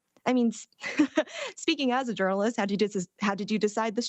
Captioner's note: chuckles